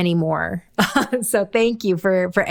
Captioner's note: chuckles